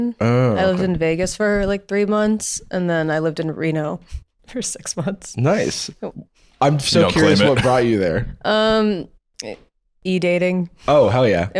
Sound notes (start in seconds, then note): 6.9 laughing